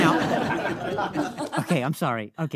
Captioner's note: audience laughing